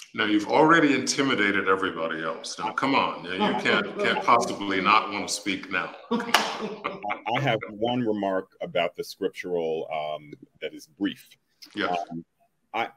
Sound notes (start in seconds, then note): 6.1 laughter